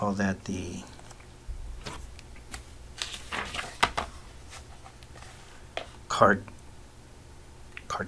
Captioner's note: paper Sounds